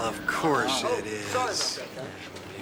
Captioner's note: banging, Chang moans